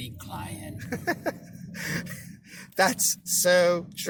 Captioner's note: laughing